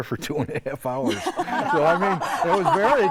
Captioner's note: laughing